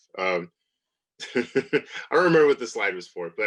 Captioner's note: laughs